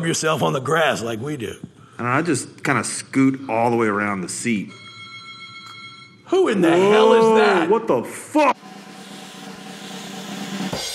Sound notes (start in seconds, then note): 4.6 phone rings; 8.6 drum roll